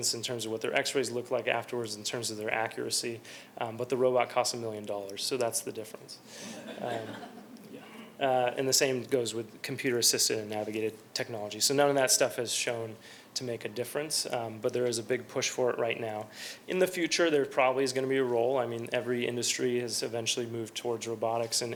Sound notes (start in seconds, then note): 6.4 laughter